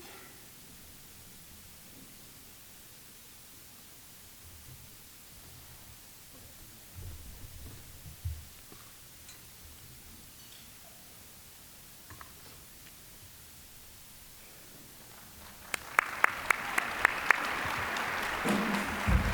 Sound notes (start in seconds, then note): 15.0 applause; 18.7 smooth jazz music